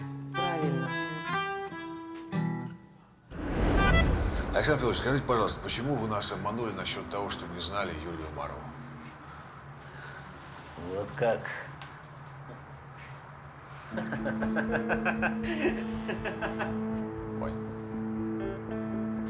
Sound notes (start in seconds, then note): 13.8 laughs